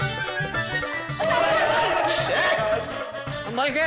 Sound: screaming

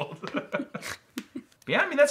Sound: laughing

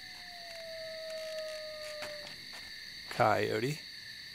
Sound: desert ambience: insects, wind; coyote yip; chairs creaking

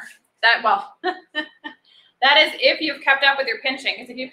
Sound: laughs

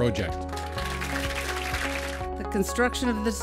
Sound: applause

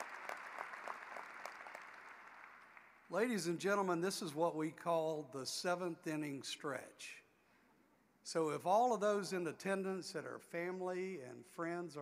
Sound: applause

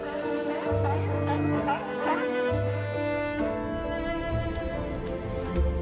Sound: sounds of sea lions

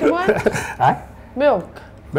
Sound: laughing

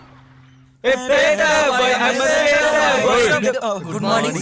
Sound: humming a song

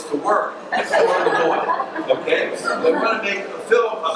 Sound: audience laughs

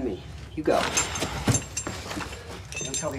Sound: metallic clinking

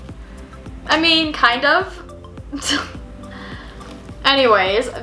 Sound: scoffs

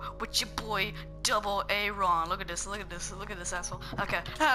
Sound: stutter

